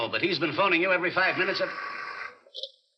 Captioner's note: phone rings